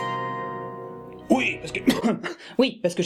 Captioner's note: coughs